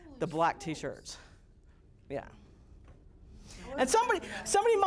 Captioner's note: students murmuring